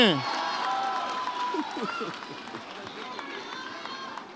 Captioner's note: audience cheers